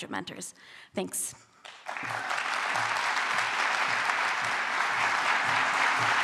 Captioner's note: applause